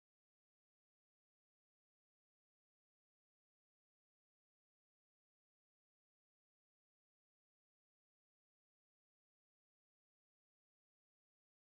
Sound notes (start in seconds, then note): none